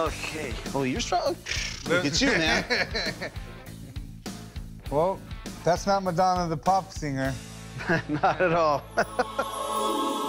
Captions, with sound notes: Oh, you're strong. Look at you, man. [laughs] Oh, that's not Madonna the pop singer. Not at all. [angelic music]